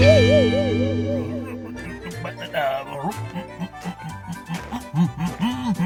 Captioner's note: grunting